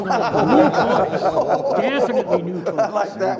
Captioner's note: all laughing